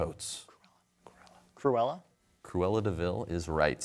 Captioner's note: whispering